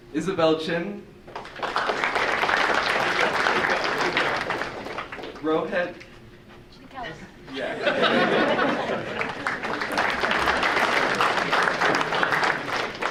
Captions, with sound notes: Isabelle Chin? (audience applauding) Rohet? >>Chitikela. >>Yeah. (audience laughing) (audience applauding)